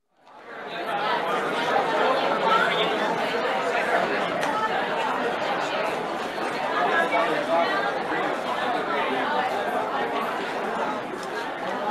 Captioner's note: crowd noise